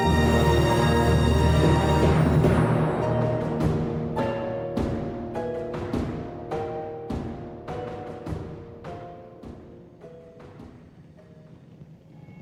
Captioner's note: clanging